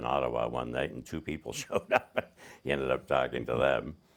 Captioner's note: laughing